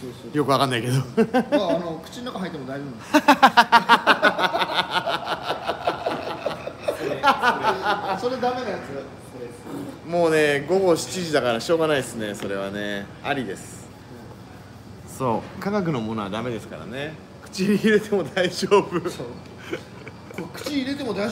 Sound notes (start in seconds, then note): 6.1 laughter